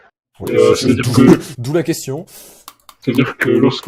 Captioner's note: laugh